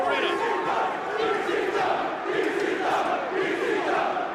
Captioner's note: audience chanting